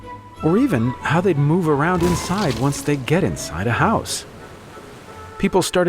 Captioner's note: thud